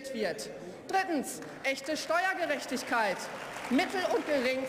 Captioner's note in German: Beifall